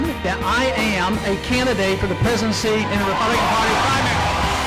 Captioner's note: cheers, applause